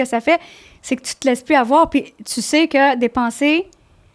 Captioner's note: in french